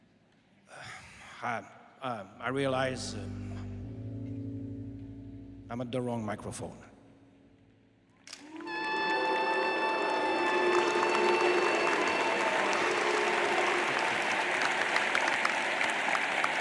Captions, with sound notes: I, I realize I'm at the wrong microphone. (crowd boos and applauds) (soft tense jazzy music)